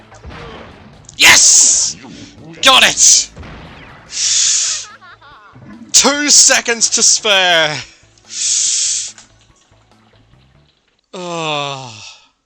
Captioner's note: groans